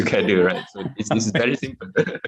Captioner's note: laughter